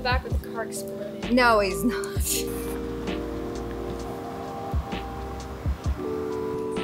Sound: chuckles

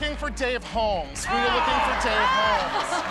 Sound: groans

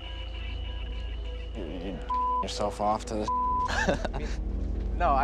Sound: beep; chuckles

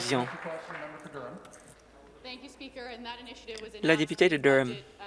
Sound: some Applause

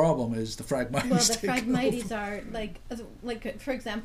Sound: voiceover

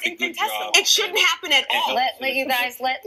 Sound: voiceover

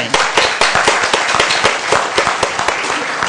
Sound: applause

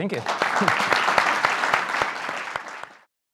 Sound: audience applauding

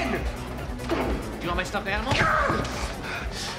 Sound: TROY exclaims

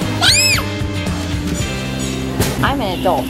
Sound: screams

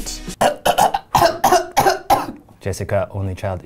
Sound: loud coughing

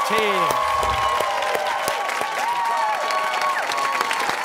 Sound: cheers and applause

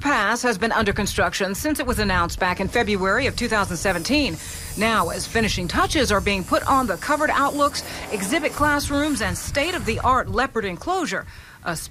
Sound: airplane engines

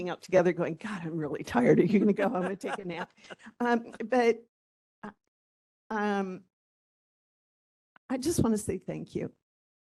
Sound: laughing

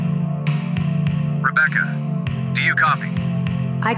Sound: intercom

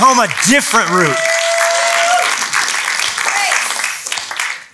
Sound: applause

